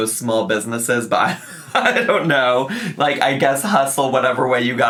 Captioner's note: laughs